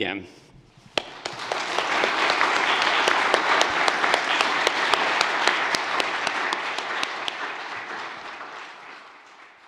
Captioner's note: applause